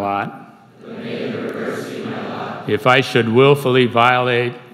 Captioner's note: crowd